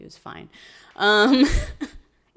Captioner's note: laughs